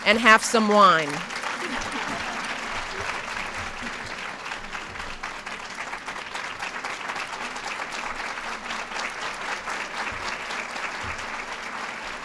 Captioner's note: applause